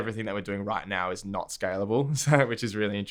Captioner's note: laughs